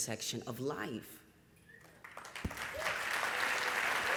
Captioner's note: applause and cheering